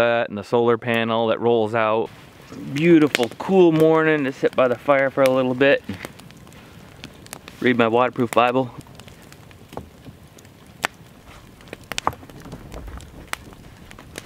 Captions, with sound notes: and the solar panel that rolls out. Beautiful, cool morning to sit by the fire for a little bit, read my waterproof Bible. (fire crackling)